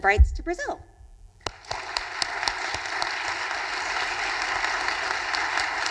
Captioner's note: audience applauding